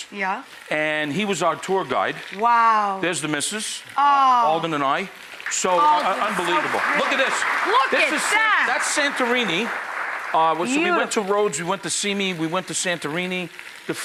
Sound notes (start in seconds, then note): 6.5 audience applauding